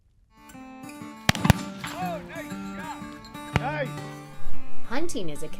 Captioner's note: gun firing